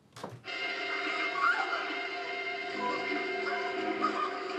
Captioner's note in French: Une femme hurle de terreur